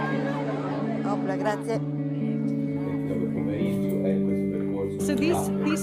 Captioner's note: speaking in foreign language